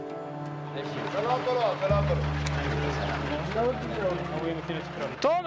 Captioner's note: speaking in foreign